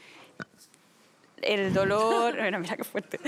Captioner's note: laughs